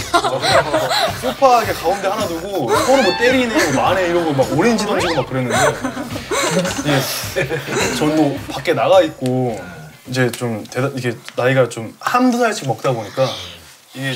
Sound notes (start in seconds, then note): 6.3 shivering